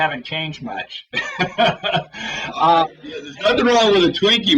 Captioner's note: laugher